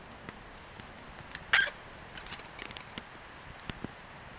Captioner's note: fire cackling